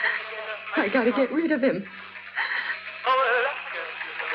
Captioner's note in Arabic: لهث